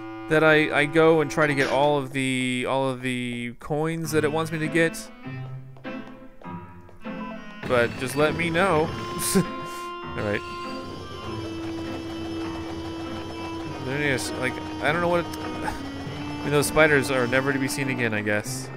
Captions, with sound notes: that I go and try to get all of the coins that it wants me to get, but just let me know. (brief laugh) All right. Like I don't know what- Those spiders are never to be seen again, I guess.